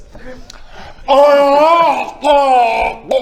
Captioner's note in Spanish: ggggaaargh; hhrrrllrrgh